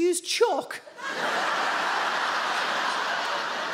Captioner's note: audience laughs